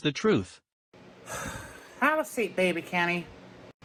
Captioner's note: sighs